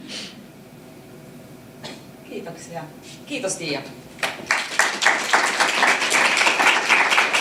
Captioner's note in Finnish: aplodeja